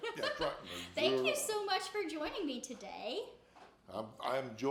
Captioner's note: laughs